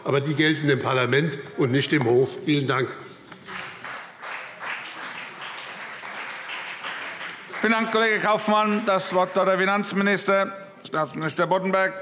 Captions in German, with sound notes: Dieses gilt aber dem Parlament und nicht dem Rechnungshof. - Vielen Dank. [Beifall BÜNDNIS 90/DIE GRÜNEN und CDU] Vielen Dank, Herr Kollege Kaufmann. - Das Wort hat der Finanzminister, Staatsminister Boddenberg.